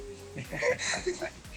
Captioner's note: both laughing